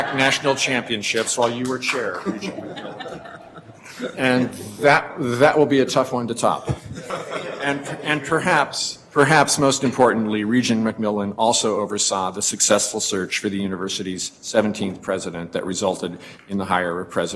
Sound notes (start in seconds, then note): 1.1 laughing